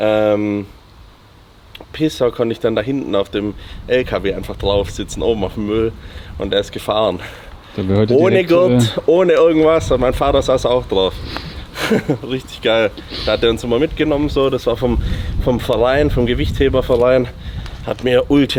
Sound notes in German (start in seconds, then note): 13.0 schnauben